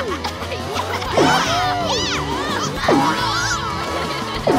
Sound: yelling

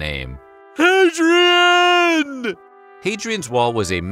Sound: imitating stallone

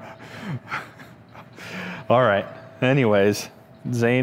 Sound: chuckling

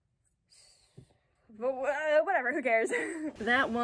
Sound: laughing

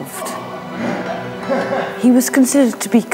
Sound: men grunt and laugh

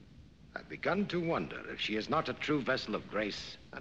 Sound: none

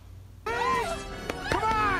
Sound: woman screaming

